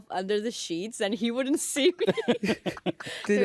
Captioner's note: laughter